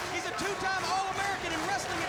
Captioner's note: crowd cheering